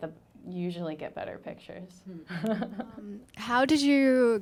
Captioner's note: laughing